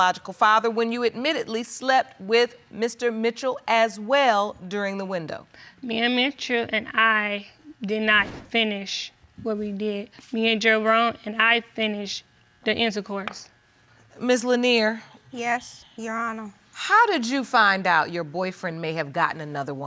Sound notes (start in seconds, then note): none